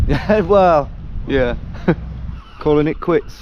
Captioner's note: chuckles